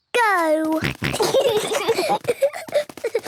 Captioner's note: snorting, giggling